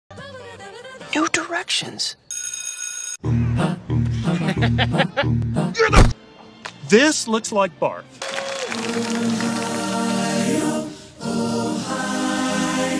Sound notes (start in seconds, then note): 4.2 Puck laughs; 8.2 cheering and applause; 8.7 sings